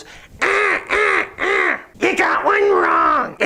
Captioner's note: squawking